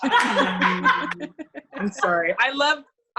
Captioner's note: laughs